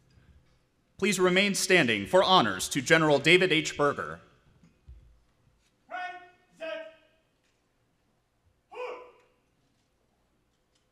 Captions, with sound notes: Please remain standing for honors to General David H. Berger. (Marine shouting orders)